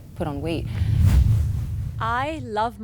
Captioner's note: percussive whoosh